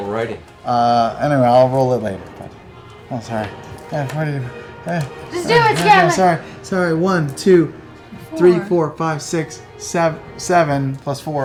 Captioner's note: counts quietly